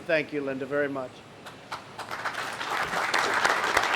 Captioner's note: applause